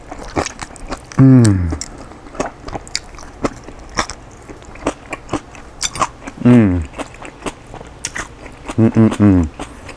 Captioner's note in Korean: 아삭아삭 즐기고있음